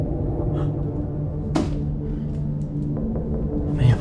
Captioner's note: gasping